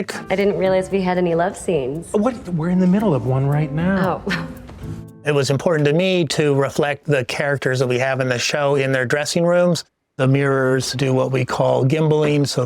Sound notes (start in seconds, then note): 4.2 chuckles